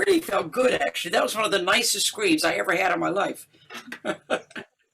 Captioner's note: laughter